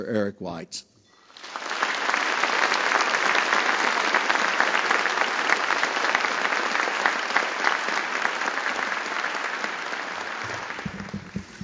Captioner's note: applause